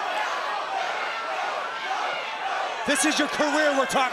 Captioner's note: crowd chatter